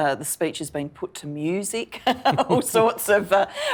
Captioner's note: laughing